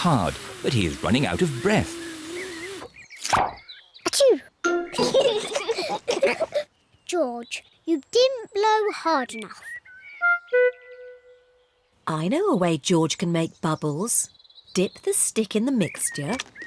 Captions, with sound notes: but he is running out of breath. (SNEEZES) (BOTH GIGGLE) George, you didn't blow hard enough. I know a way George can make bubbles. Dip the stick in the mixture,